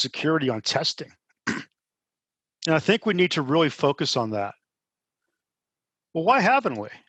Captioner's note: cough